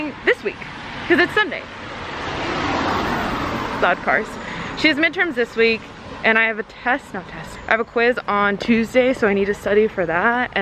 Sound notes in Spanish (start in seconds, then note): 1.9 Autos que se acercan